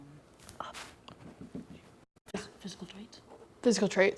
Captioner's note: whispering